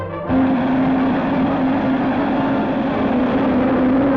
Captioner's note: engine roaring